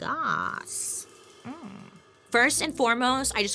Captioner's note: humming; upbeat instrumental music